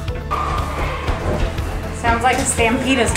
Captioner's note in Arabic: الأطفال يصرخون من بعيد